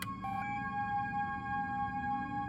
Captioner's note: relaxed music; button beeps